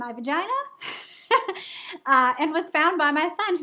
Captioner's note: laughing